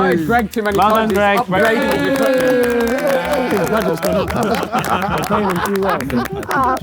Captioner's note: crowd clapping